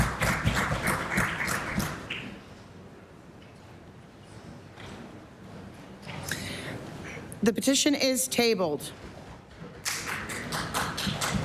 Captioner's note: some Applause